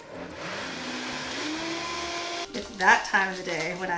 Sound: blender whirring loudly

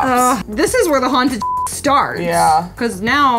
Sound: beep

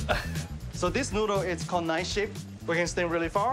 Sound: speaking Chinese language

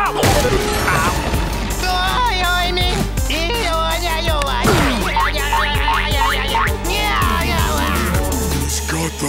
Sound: talking gibberish

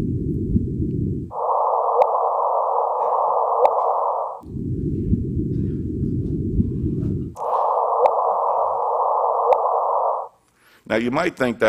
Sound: staticky chirpy sound

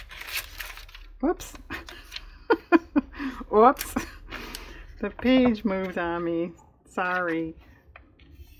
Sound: laughs

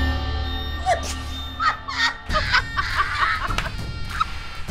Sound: laughing loudly

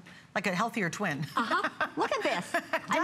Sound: laughter

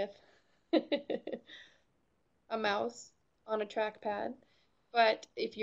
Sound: chuckles

